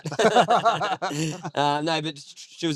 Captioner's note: laughing